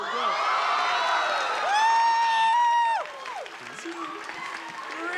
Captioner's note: cheering